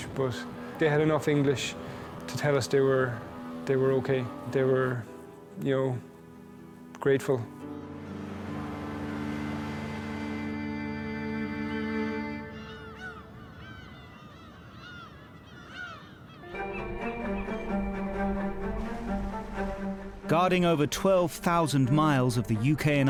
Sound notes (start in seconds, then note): 7.5 gentle music; 7.9 water whooshing; 11.5 birds squealing; 16.4 lively music; 18.2 water whooshing